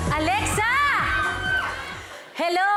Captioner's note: woman screams